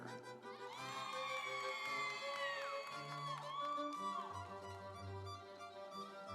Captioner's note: audience cheering; instrumental music